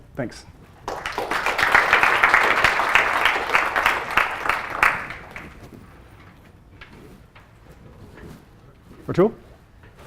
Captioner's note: applause